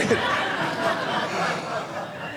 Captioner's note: audience laughing